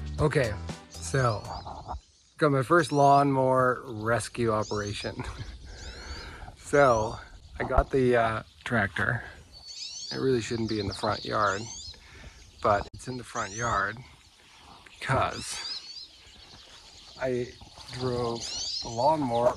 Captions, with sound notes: Okay, so I got my first lawn mower rescue operation. (chuckles) So, I got the tractor (birds chirping) that really shouldn't be in the front yard, but it's in the front yard because I drove the lawnmower straight into the ditch.